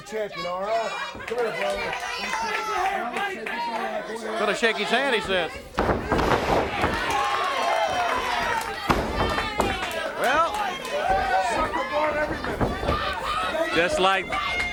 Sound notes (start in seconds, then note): 3.1 crowd chatter; 4.3 crowd cheering; 7.8 crowd cheering; 9.6 crowd chatter; 14.5 crowd chatter